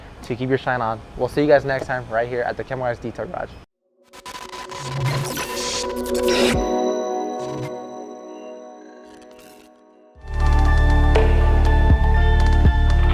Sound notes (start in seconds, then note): 4.1 logo whooshing; 10.5 mellow music